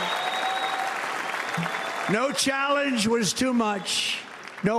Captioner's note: applause